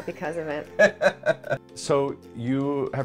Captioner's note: laughter